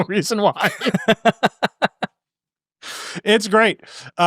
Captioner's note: both laughing